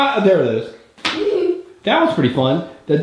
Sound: girl laughs

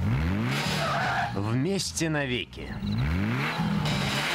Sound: engine revs in lurches

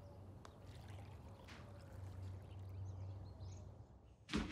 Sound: water splashes

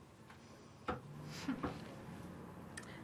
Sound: light chuckle

